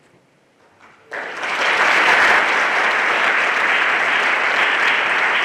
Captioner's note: everyone applauding